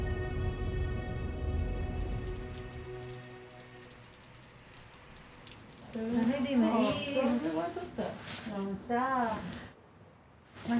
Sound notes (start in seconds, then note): 6.2 speaking foreign language